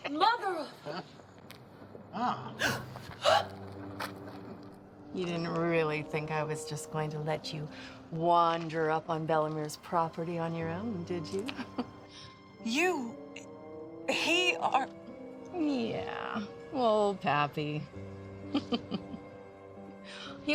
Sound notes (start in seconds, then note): 3.2 Eleanor gasps; 11.8 laughs; 18.5 laughs